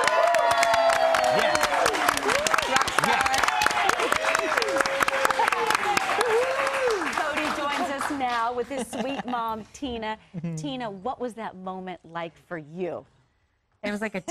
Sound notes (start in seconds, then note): 3.5 cheers and applause